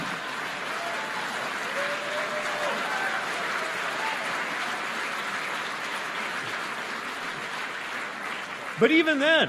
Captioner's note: applause